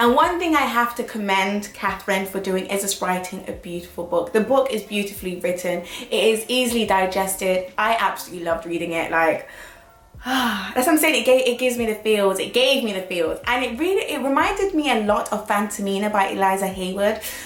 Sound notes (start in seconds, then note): 10.2 sighs